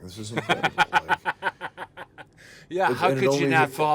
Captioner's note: laughing